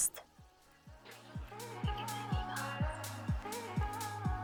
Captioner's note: in a whispering voice